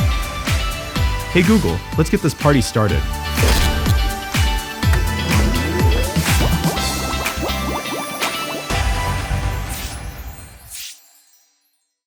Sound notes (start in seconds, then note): 4.8 device powering up; 4.8 bubbles